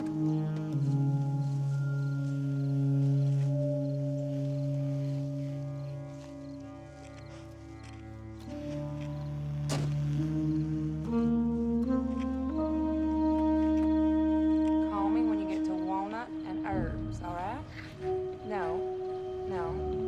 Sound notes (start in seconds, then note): 0.1 insects chirping; 9.6 door slamming; 11.9 somber music; 16.4 chattering on phone